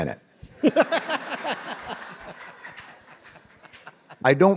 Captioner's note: David and audience laughing